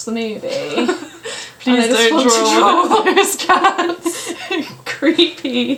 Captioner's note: laughs